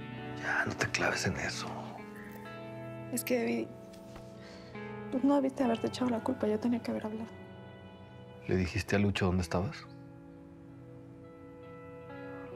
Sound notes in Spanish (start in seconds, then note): none